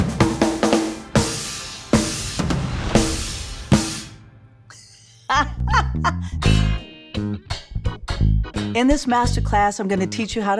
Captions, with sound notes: [LAUGHS] In this MasterClass, I'm going to teach you